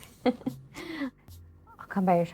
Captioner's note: Lynn laughs